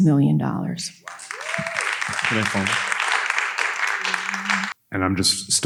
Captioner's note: audience applauding